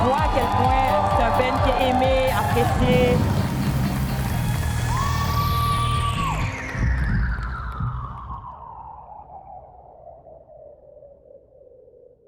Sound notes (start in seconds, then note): 0.0 applause; 0.0 cheering; 5.2 cheering